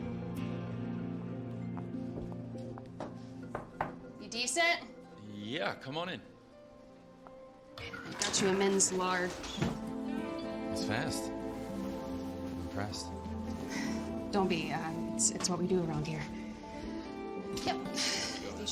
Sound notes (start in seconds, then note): 3.5 knocks; 8.6 sensual music